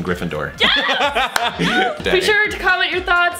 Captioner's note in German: lacht